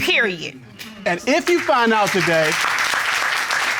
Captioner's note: applause